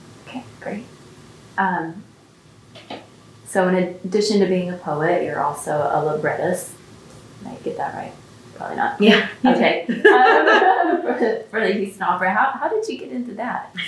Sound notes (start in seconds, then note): 9.0 laughs; 9.8 laughter